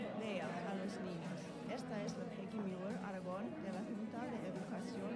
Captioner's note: speaking foreign language